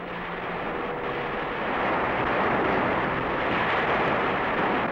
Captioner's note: crashing waves